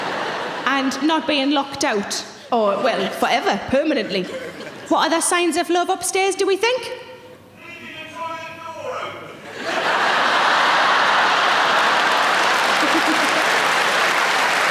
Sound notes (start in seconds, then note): 9.4 audience laughing; 11.6 audience clapping